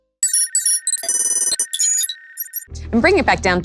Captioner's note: loud electronic beeping